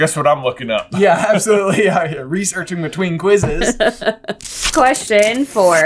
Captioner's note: laughter